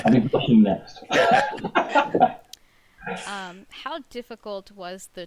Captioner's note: all laugh